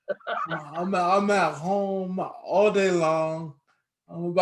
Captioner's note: laughing